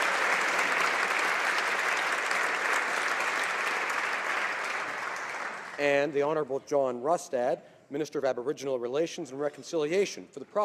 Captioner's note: applause